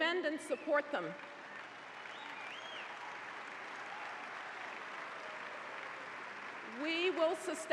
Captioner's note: applause